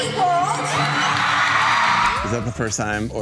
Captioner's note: audience cheering